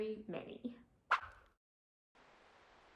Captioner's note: Swish